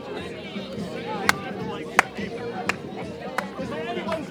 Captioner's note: Merry claps